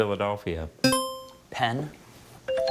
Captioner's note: buzzer chimes; bell chimes